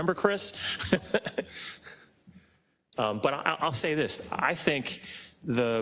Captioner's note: laugh